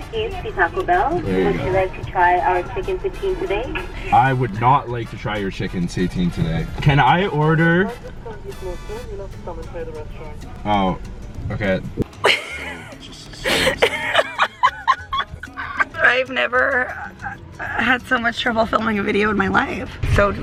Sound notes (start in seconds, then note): 12.2 laughing